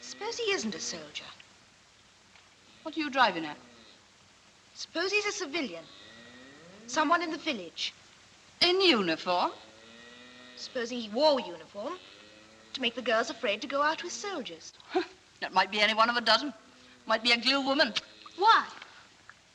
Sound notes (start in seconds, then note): 14.8 chuckles